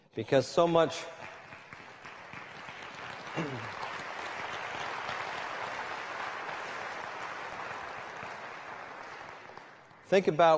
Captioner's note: applause